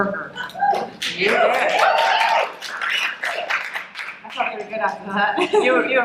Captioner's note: audience cheering